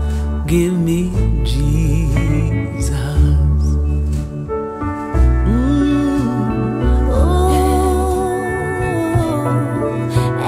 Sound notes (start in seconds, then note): 4.5 gentle piano music; 5.4 hums